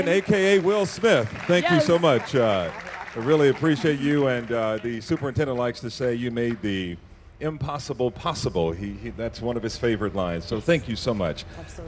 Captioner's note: applause